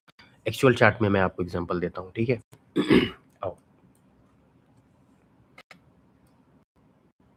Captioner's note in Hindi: गला साफ़ करने की आवाज़